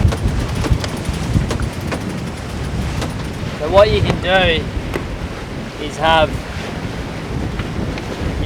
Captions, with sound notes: (clanking) - What you can do, is have,